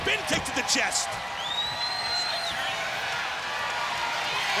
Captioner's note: crowd cheering